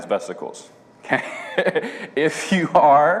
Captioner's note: laughs